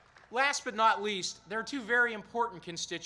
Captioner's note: applause